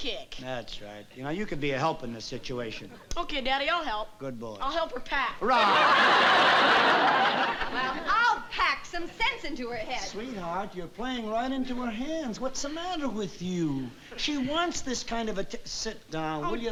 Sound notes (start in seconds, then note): 5.4 laughter